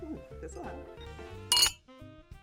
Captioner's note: wine glasses clink; theme music